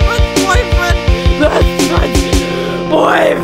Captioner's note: inhale